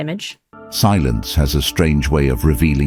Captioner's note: AI Voice